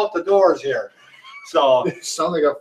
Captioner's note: chuckling